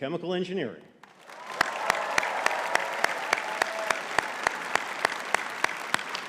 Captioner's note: audience cheering and clapping